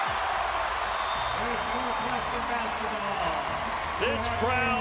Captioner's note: whistle blows